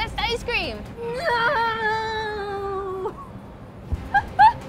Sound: humming; laughing

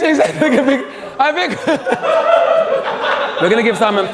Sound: group laughs

